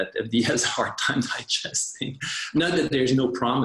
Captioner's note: chuckles